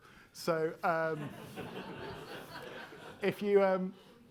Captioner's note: attendees laughing